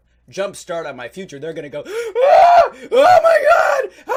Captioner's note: screams